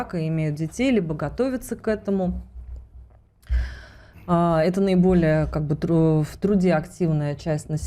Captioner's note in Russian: вздыхает